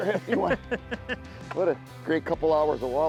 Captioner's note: chuckles